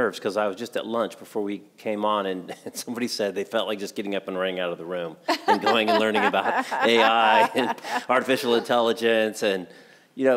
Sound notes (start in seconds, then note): 5.3 laughs